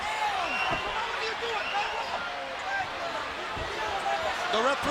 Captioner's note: Scott shouting